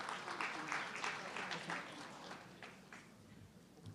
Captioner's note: audience clapping